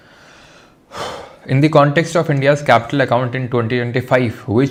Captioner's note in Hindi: गला साफ़ करने की आवाज़; गहरी सांस लेने की आवाज़